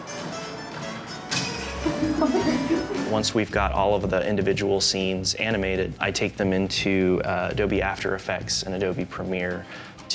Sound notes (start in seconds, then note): 1.8 laughter; 3.8 upbeat music